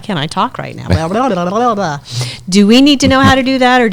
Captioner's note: blubbers